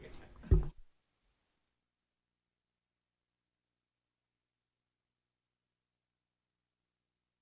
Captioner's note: silence